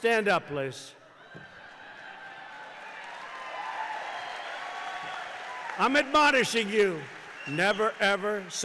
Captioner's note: applause